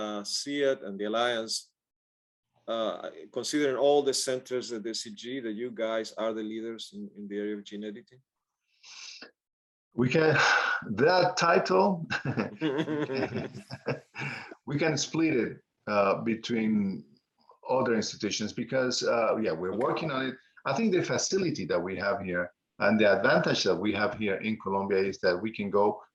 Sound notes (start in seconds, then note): 12.1 laughing